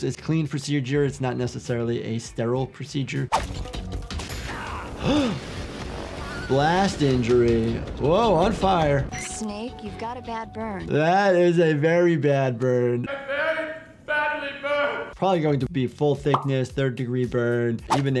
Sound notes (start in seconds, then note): 4.3 explosion booms; 4.5 Snake yells; 4.7 gasps